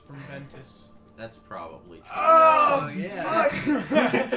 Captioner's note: anguished cry; everyone but has a good laugh